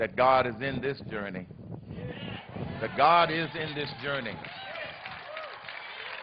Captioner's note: applause